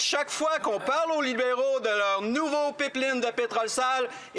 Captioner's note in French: voix de l'interprète